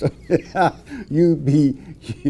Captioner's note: laughing